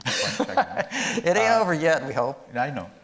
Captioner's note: laughing